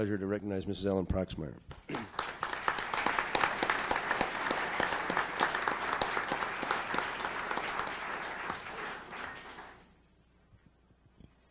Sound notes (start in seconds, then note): 1.8 audience applauds